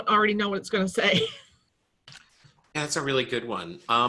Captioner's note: chuckles